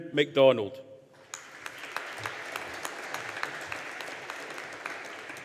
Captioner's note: audience applauding